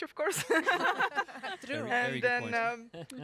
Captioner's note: laughing